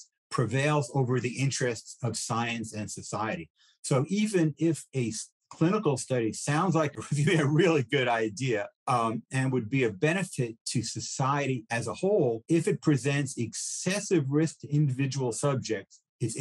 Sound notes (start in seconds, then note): 6.9 laughs